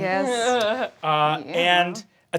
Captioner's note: laughing